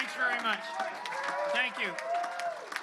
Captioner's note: cheering